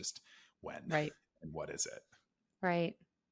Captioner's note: laughs